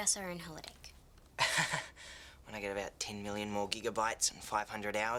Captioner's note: laughs